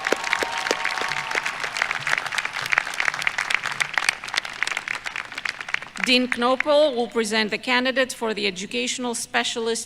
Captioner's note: applause